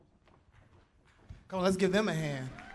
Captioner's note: applause